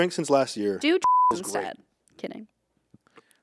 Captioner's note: beep